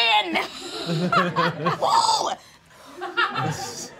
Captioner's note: all laughing